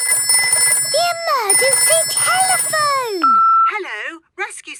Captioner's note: phone ringing; answering machine